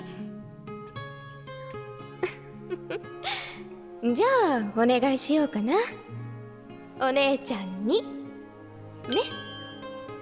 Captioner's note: laughs